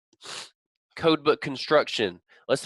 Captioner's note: sniffles